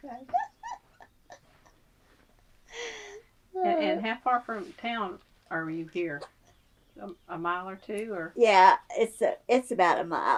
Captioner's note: laugher